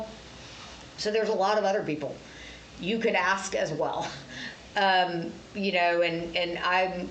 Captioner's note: laughs